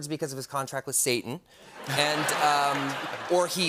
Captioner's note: laughter